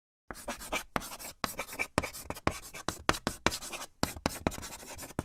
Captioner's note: writing on a chalkboard